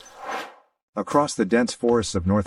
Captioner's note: air swooshes